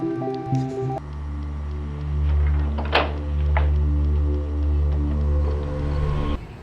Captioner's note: suspenseful music; object rustling